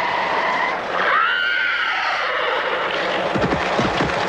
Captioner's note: whinnying; tires screech; whinnying